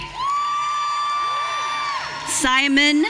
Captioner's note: audience cheering